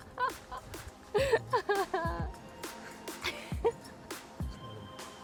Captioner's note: laughs